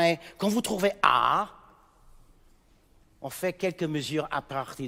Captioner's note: speaking in French